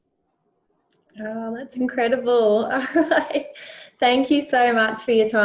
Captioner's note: laughs